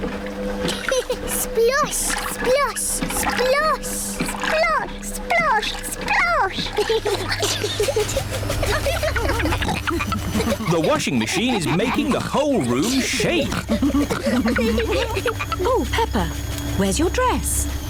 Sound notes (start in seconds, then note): 0.0 machine rumbles; 0.7 giggles; 7.0 giggling; 9.2 rumbling